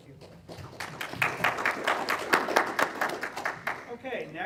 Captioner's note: applause